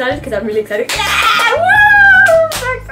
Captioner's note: claps hands excitedly